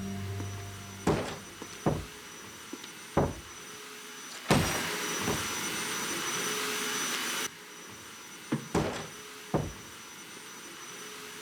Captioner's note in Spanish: Ruido de la aspiradora